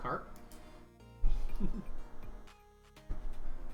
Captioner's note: chuckles